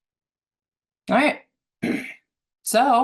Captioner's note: clears throat